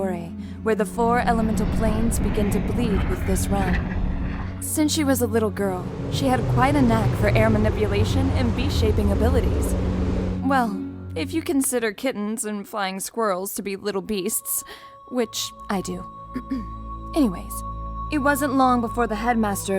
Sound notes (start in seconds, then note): 16.4 clears throat